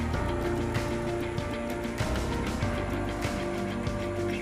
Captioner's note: none